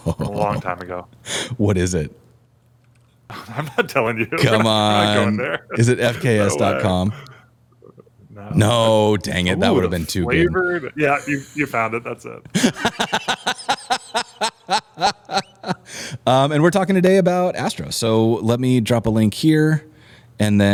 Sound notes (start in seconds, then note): 8.0 laughter